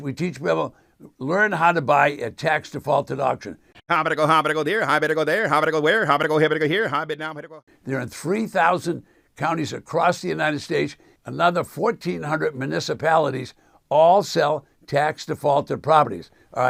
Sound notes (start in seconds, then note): 4.2 auctioneer speaking